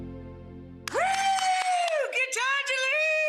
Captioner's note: cheering